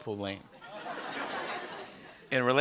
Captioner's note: laughter